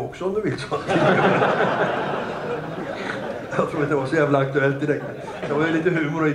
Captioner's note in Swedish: Skratt